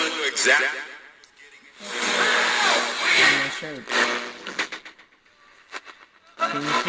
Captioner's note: radio static